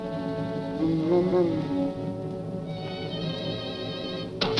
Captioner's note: devil grumbles